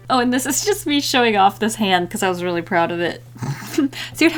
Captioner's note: laughs